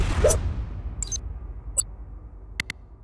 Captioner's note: dramatic music; logo whooshes